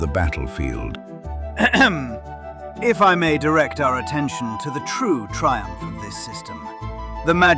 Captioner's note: clears throat